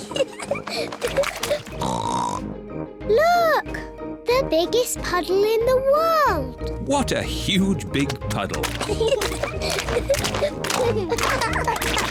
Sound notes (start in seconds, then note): 0.0 giggles, snorts; 10.7 both giggling